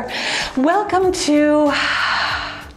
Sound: sighs

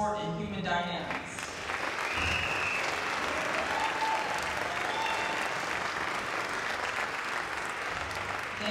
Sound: applause

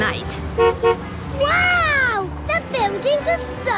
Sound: honks

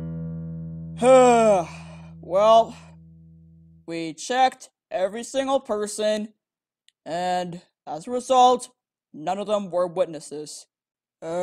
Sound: sighs

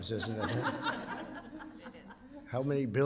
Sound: laughter

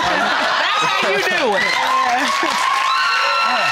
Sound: all laughing

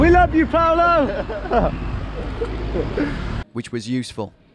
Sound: laughing

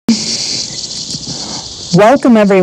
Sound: crickets chirping

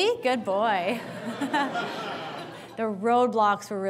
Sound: audience laughs

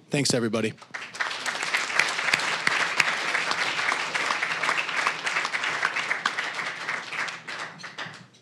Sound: applause

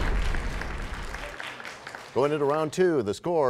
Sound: crashing sound

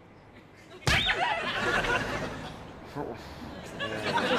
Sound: shoe squeaking

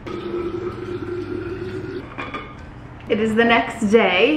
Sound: water pouring

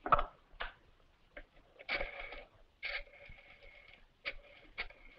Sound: rotary phone dialing

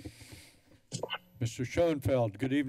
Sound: static noise

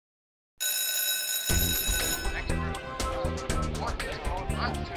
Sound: school Bell Rings

